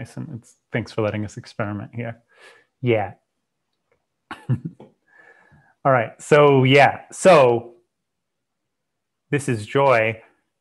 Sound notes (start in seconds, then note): 2.2 breath; 4.3 chuckles